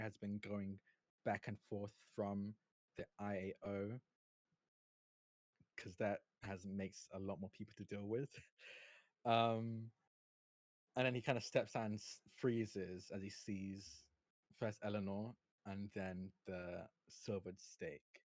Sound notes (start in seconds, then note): none